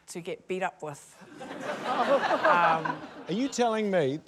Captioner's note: laughter